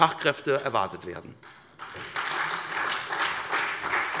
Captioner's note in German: Beifall SPD